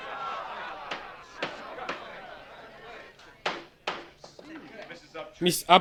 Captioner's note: gavel bangs